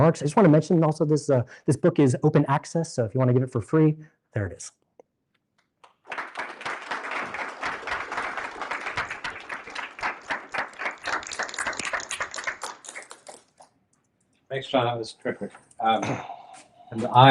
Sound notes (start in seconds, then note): 5.8 applause